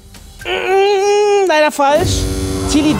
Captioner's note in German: Bestürzte Laute